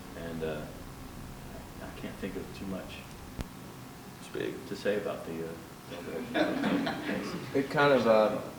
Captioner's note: laughter